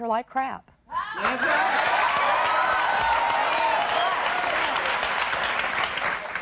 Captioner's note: audience laughing and cheering